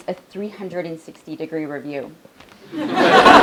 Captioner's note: laugh